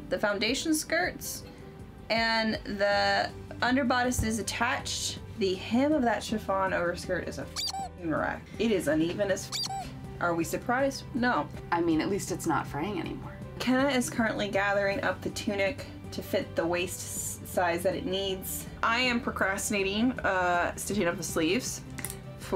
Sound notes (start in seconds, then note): 7.5 squeaking